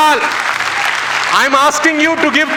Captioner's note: rounds of applause